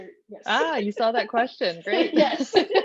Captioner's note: laughs